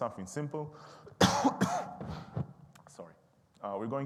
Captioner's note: coughing